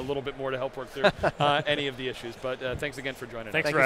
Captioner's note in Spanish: riéndose